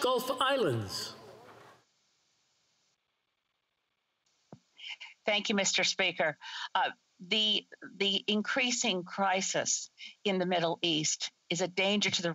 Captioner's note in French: voix de l'interprète